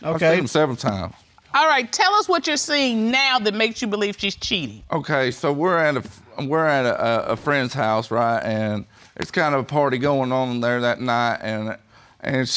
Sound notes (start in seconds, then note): none